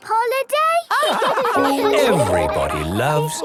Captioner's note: all laugh